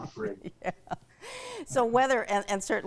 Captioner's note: laughs